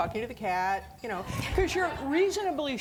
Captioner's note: audience laughing